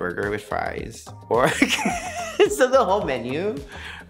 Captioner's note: laughing